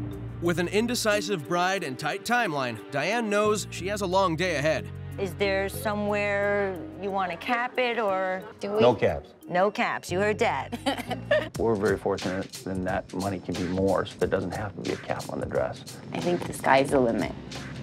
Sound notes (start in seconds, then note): 10.7 laughs